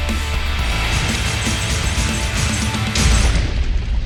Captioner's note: explosions